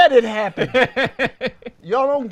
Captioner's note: laughs